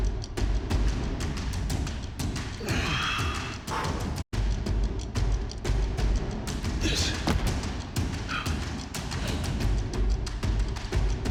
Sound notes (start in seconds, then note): 6.8 Kofi Kingston grunting